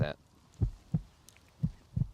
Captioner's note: dissatisfied Silence